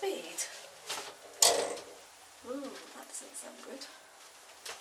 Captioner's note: clunk